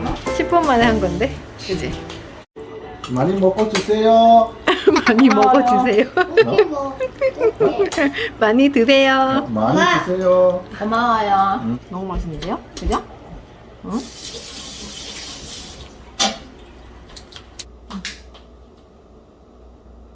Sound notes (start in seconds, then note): 4.1 broken Korean